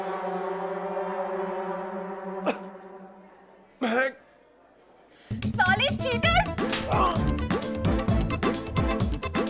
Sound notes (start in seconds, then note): 6.6 slapping